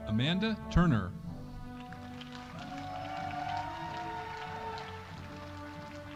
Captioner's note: audience cheering